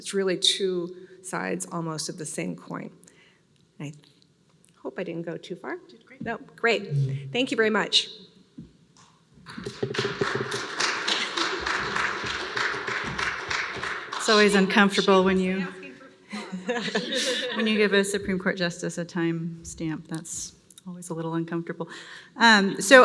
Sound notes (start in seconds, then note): 9.5 applause